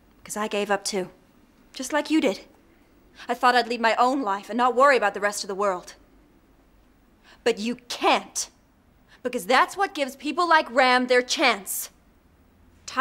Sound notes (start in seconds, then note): none